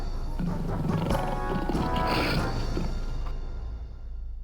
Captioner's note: animal growling